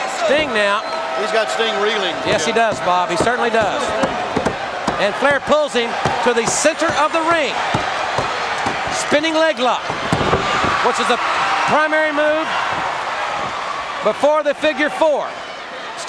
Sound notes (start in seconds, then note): 9.7 Ric thudding on ring; 10.5 crowd cheering